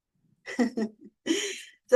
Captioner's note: chuckles